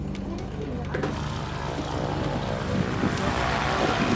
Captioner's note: engine hums